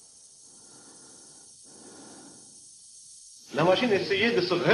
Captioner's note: breathes steadily